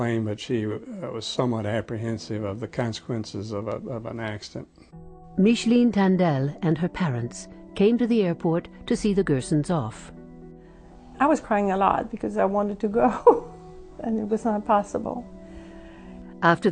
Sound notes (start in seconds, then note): 13.5 laughing